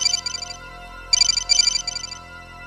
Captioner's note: phone rings